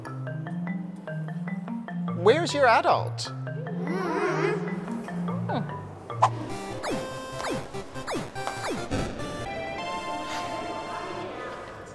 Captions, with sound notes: - Where is your adult? (confused grunts) (electronic video game music)